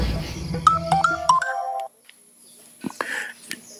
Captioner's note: cell phone rings